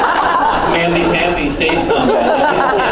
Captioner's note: laughs